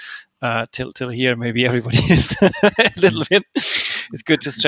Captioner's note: laughs